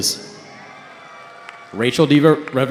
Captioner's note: cheering